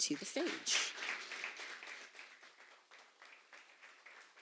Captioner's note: applause